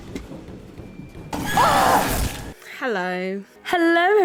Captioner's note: tense music; screams